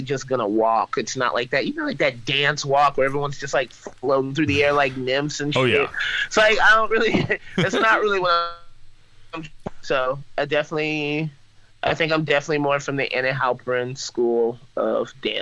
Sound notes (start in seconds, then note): 10.5 laughs